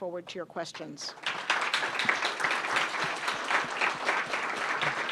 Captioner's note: applause